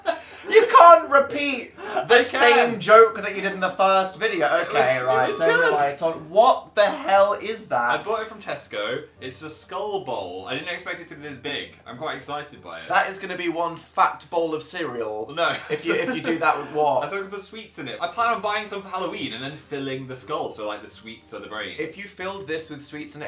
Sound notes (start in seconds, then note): 5.2 quietly